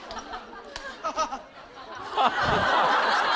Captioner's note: haha